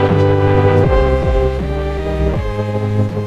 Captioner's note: thunderclap